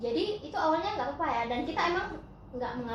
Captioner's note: none